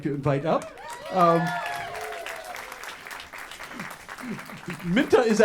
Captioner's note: audience cheers and applause